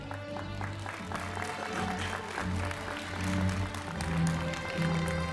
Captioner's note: applause, Music